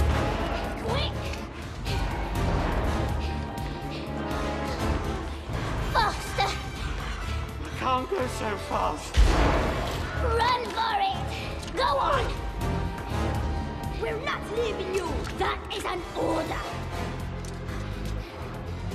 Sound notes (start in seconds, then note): 9.1 thud